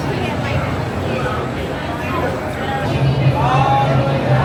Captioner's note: crowd murmuring